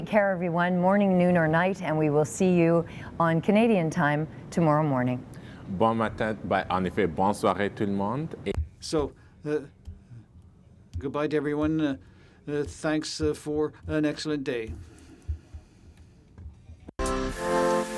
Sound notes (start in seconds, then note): 8.1 speaking in French